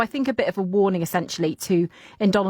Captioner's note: none